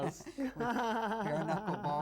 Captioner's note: laughs